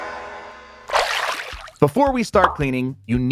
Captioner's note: water sloshing